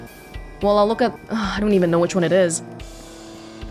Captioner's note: exhales